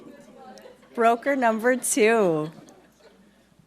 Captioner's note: laughing